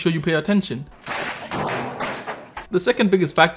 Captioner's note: monitor crashing